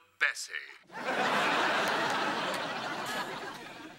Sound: laughter

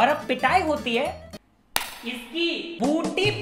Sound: slap

